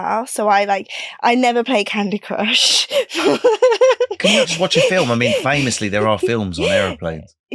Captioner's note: laughing